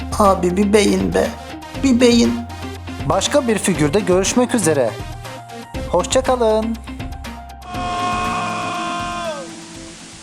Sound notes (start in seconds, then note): 7.6 aaaaaa!